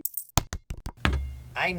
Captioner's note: loonie and toonie sounds; basketball sounds